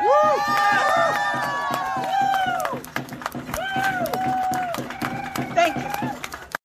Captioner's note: applause